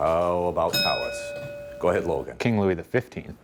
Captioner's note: bell dinging